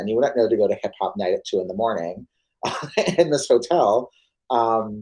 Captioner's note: laughs